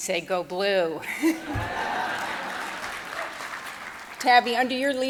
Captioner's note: audience laughing